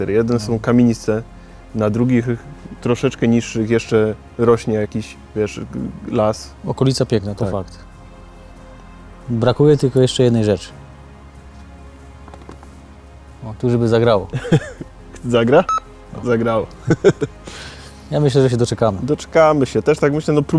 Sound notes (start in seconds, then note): 17.1 laughing